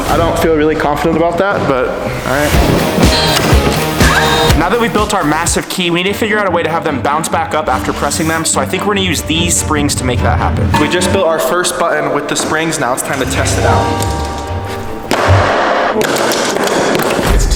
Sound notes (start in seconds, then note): 3.0 power drill revs; 14.6 feet bang on wood; 16.1 springs click